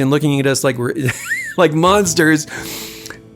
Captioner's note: laughter